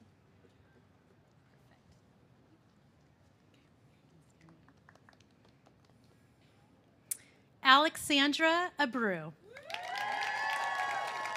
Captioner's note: A pause